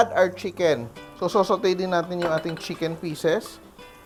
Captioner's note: clang